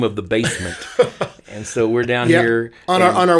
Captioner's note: laughing